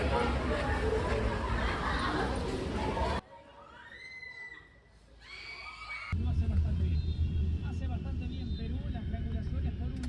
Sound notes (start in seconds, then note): 3.5 cheering sounds coming up